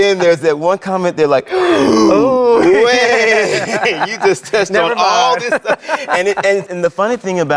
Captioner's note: gasps